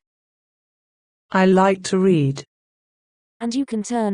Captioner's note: LAMP voice